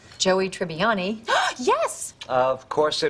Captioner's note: gasp